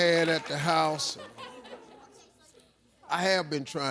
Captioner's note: audience laughs